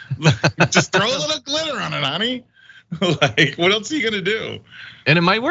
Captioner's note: laugh